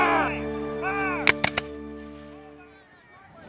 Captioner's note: rifles firing